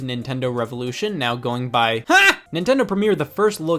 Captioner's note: shout